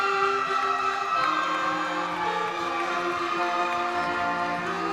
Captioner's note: crowd cheering